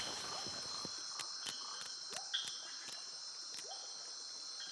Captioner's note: birds chirping